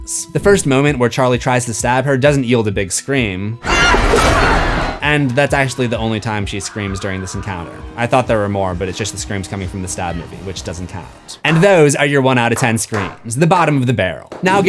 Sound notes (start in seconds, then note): 3.6 screams